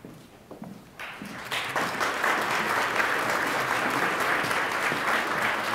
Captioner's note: attendees applauding